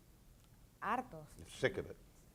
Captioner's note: speaking in foreign language